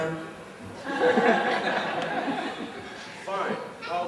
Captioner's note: laughter